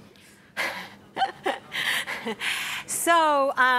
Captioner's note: laughs